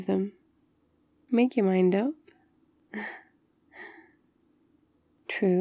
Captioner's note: laughs